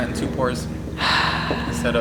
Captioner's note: siiigh